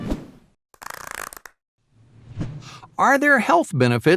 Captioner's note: swoosh sound